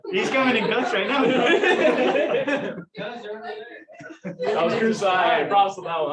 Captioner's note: laughter